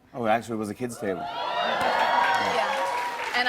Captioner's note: cheers and applause